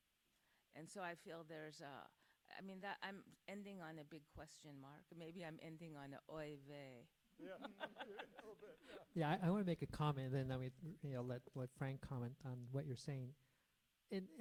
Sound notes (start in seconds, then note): 7.4 chuckles